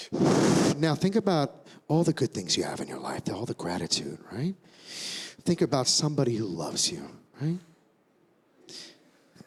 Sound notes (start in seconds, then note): 0.6 inhales